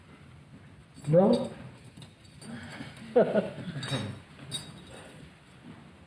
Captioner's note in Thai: หัวเราะ